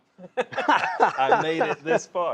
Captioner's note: both laughing